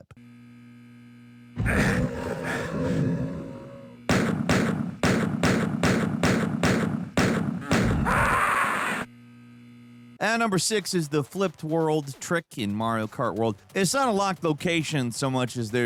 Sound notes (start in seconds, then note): 0.2 alarm blaring; 4.1 gunshots firing